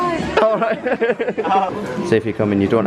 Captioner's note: laughter